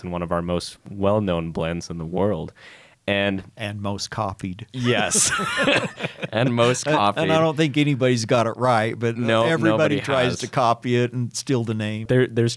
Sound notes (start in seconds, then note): 4.8 both laugh